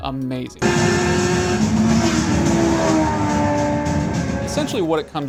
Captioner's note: motorcycle revving